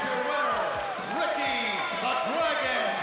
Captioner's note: crowd cheering